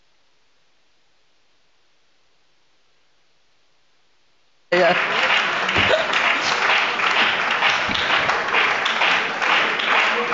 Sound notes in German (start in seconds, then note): 2.5 Beifall bei der SPD und der FDP